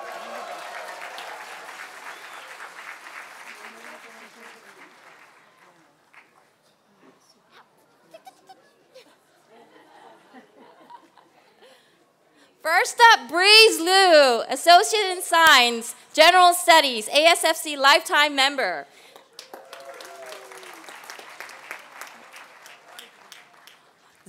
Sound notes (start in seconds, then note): 0.0 applause; 6.2 laughter; 19.0 applause